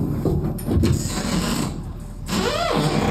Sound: door opens

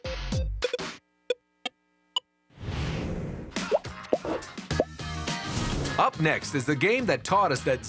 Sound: arcade sounds

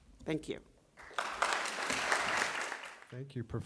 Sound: applause

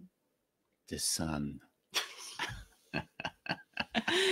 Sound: laughing

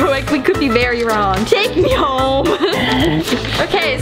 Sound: laughs

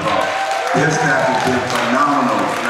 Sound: audience cheers and applauds

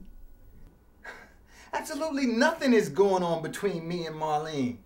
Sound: scoffs

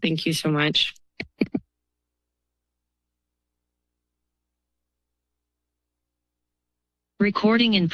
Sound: silence

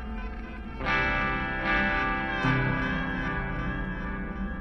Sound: wind howls

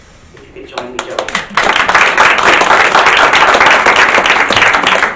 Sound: audience claps

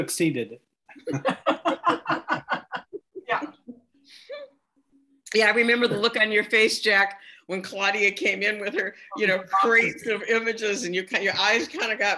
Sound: laughter

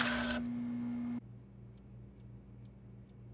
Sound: clock ticking

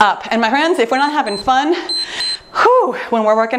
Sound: timer beeps

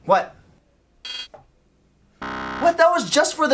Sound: buzz

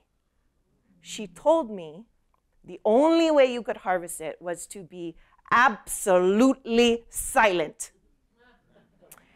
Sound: laughter

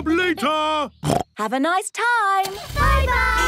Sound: snorts

